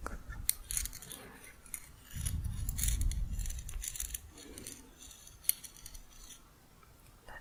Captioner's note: sliding hooks together